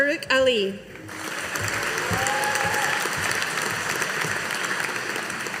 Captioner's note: audience applauding